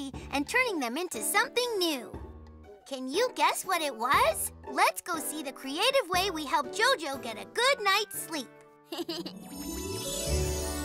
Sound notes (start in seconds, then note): 8.9 Hogi chuckles